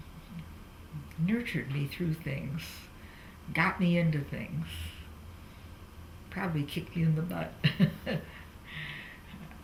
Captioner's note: laughs